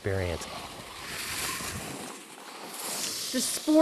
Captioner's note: snow crunching